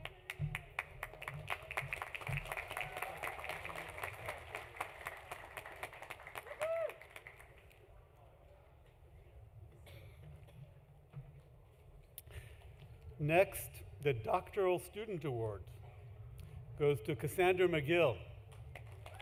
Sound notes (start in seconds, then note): 0.0 applause